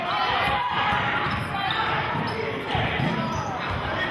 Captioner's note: yelling